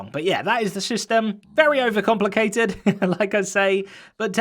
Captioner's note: chuckles